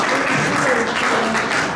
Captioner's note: clapping